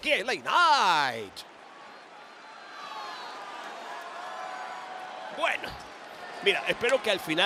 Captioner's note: applause